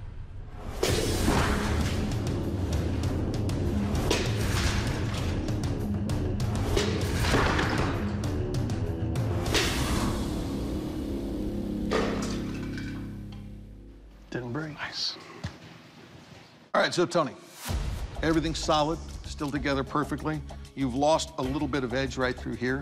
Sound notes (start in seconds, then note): 0.2 smashing; 11.3 pot clatters